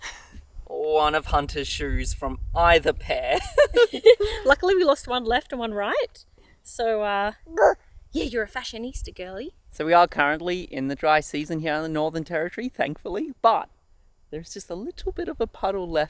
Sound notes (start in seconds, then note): 3.6 laugh; 7.4 vocalizes